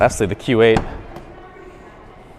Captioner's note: door closes; trunk latch clicks